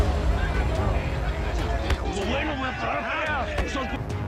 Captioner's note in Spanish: Gritan al unísono